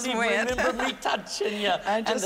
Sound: laughter

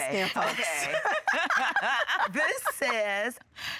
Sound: group laughs

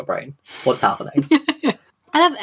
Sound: laughter

